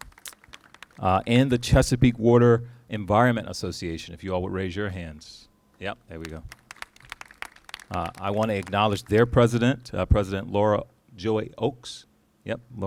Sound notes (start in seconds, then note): 6.2 applauses